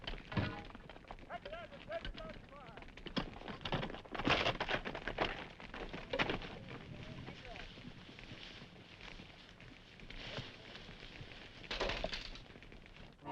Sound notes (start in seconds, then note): 3.6 horse hooves clopping